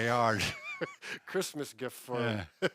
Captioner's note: chuckle